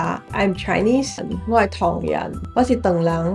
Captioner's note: Cantonese